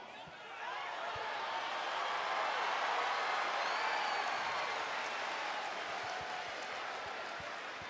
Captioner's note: applause